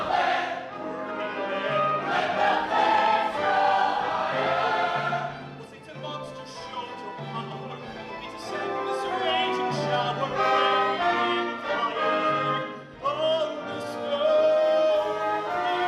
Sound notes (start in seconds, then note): none